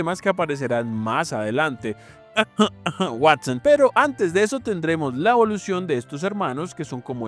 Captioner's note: cough cough